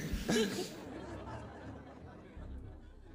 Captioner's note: laughter